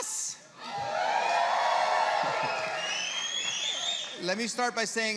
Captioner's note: applause